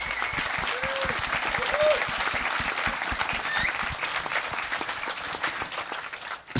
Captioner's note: applause